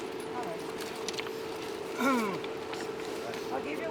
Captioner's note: loud groan